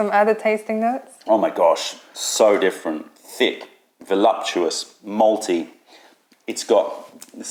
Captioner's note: sips tea